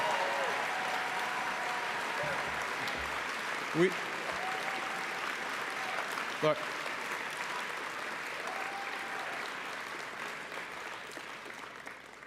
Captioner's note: cheering and Applause